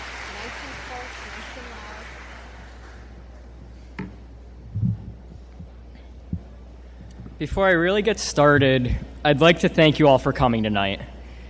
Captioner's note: applause